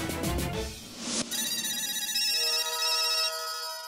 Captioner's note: phone ringing